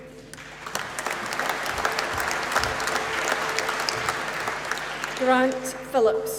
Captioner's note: applause